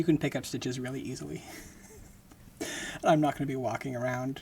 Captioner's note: laughing